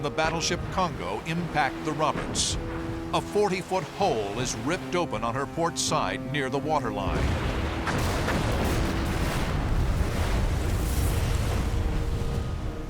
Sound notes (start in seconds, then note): 7.1 explosions